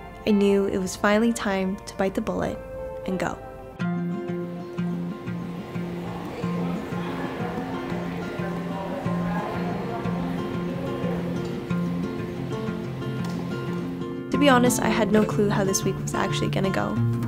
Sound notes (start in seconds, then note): 4.2 people chattering; 4.2 soft music